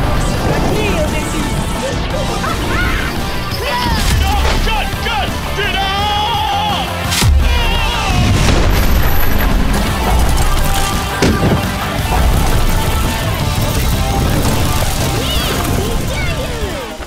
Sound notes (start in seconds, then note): 2.0 hooting; 9.7 clattering